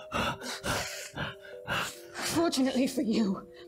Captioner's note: groaning